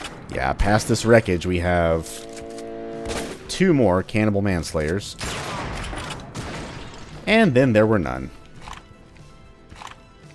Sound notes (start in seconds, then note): 6.5 bam